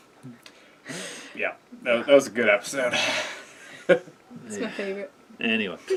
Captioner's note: laugh